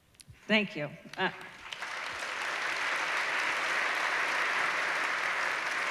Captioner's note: applause